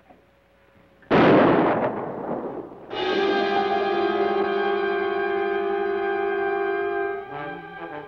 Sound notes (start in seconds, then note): 1.0 gun fires; 2.9 ominous orchestral music